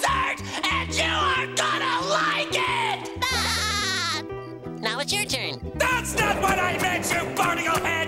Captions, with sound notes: and you are gonna like it! [laughing] Now it's your turn. That's not what I meant, you barnacle head!